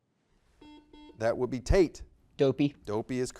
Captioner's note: buzzer beeps